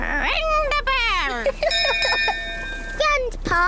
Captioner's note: laughs; rings bell